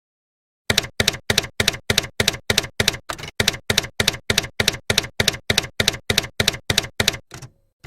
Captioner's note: typewriter keys clacking